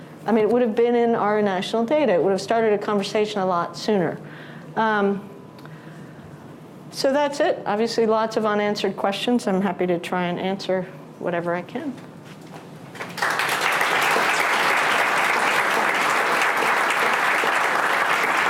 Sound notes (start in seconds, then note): 13.0 audience applauding